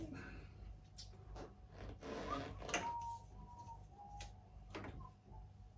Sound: whistling happily

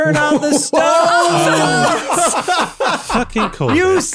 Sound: everyone laughs

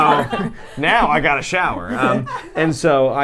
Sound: laughs

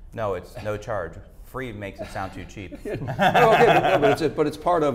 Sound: laughs

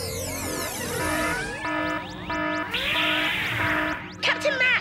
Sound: alarm

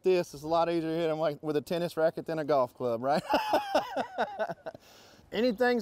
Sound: laughs

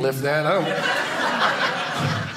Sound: audience laughing

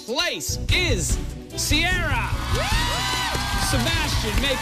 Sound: cheers and applause

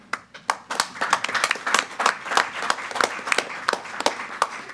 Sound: applause

